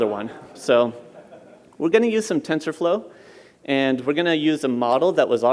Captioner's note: laughter